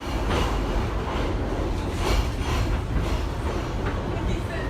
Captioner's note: subway cars rumbling